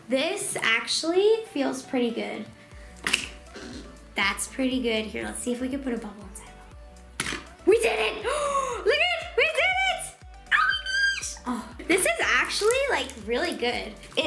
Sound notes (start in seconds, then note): 3.0 splat; 7.1 thump